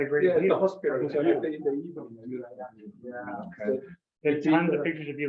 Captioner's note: members chattering